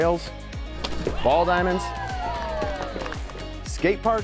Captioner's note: audience cheering